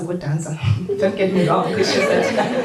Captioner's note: audience laughter